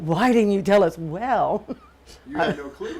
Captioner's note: chuckles